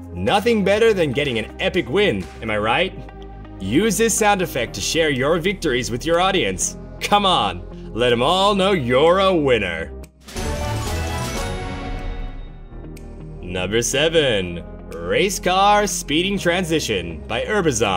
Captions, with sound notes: Nothing better than getting an epic win, am I right? Use this sound effect to share your victories with your audience. Come on, let them all know you’re a winner. [SFX plays] Number 7 - Race Car Speeding Transition by urbazon